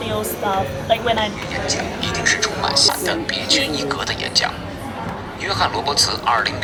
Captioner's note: app speaks in a foreign language